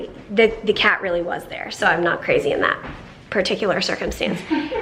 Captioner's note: laughs